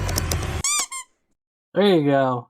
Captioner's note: squeek of done